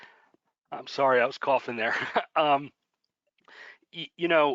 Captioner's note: laughter